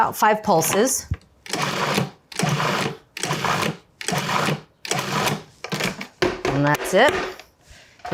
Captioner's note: food processor whirring